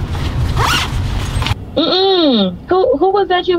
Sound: bag zipping

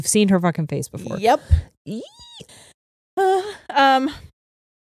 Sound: squeals

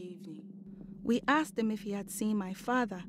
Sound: in English; Esi continues in English

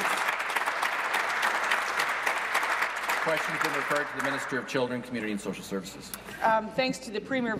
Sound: applause

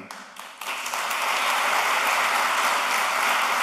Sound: applause

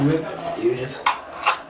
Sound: paper rip

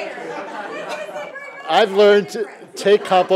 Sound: laughter

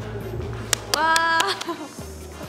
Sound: clap, clap, clap

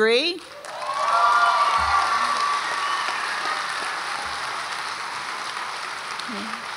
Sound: audience applauds and cheers

